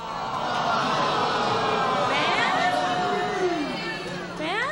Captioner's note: groaning